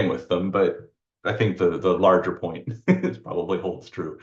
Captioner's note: laughs